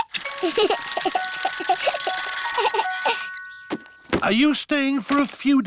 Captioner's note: alexander giggles